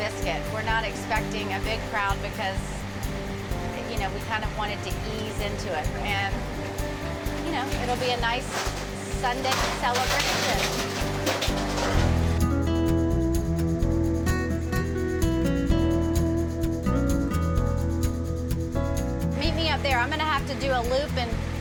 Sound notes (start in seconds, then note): 10.5 truck rattling; 12.0 cheerful music